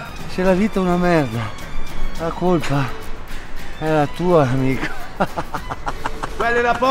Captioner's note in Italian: laughter